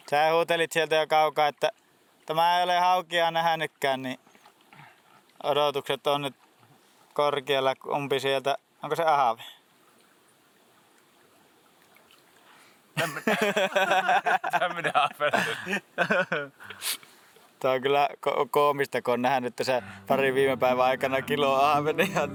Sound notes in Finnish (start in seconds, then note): 13.0 naurua